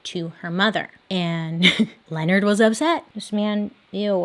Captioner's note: chuckles